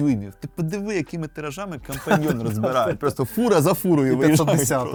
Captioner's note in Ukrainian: сміх